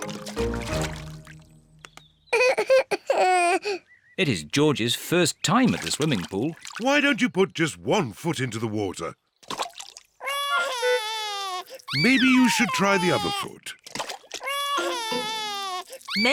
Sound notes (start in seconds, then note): 2.3 cries; 10.2 cries